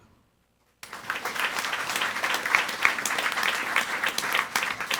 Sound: audience applauding

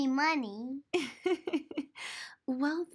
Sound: mommy chuckles

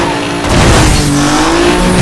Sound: crash

